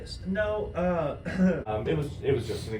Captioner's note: clears throat